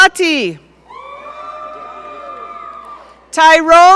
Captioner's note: audience cheering